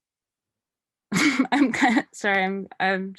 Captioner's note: laughs